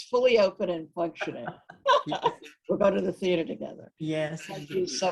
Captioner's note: both laughing